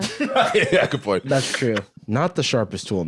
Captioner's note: laughs